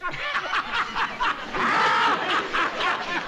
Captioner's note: laughing